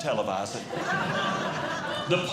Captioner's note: audience Laughing